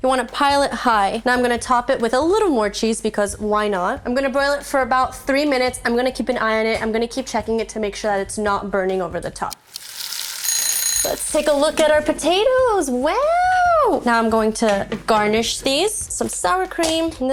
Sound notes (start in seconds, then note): 9.8 timer ringing